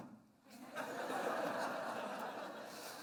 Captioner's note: laughter